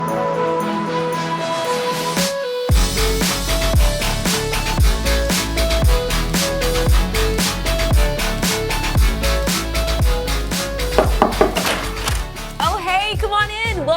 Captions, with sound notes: (upbeat music) (door knocking) - Oh, hey! Come on in!